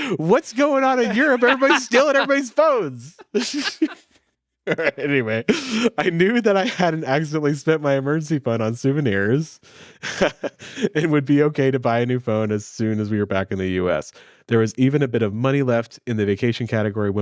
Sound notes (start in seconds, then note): 3.9 all laughing; 10.0 laughing